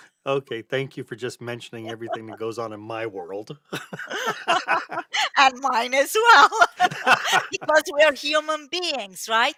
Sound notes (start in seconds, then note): 3.6 laughs